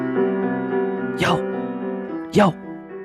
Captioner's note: whispers